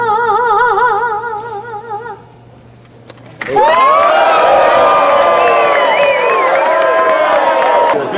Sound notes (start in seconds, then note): 3.3 crowd cheering